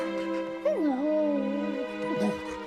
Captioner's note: whimpering; affectionate growl